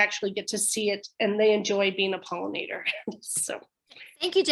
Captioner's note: chuckles